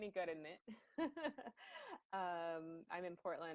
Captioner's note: laughs